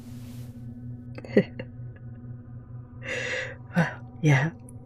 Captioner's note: tired laugh